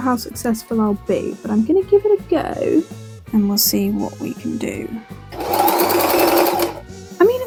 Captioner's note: sewing machine noises